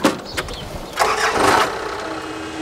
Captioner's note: engine starts